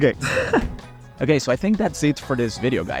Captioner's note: laughs